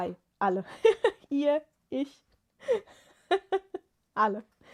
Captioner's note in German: gelächter